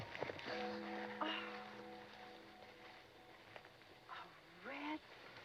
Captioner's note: Jenny gasps